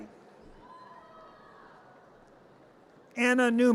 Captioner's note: audience cheers